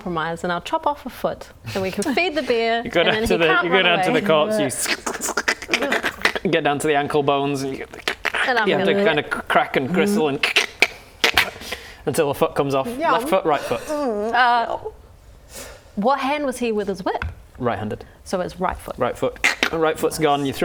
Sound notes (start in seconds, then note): 4.9 squish; 8.1 crack; 10.5 crack